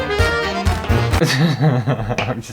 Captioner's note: circus Music; annoyed Laughter